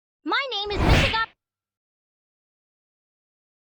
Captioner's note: smack